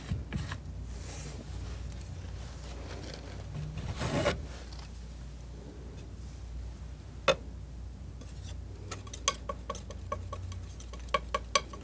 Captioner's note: scratching